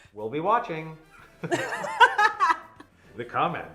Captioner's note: both laughing